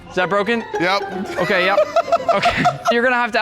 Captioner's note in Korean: 웃음